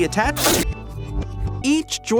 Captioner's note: loud rip sound effect